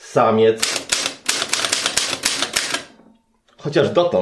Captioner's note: typewriter sound